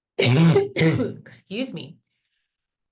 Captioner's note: coughs